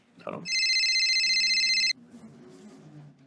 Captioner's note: phone rings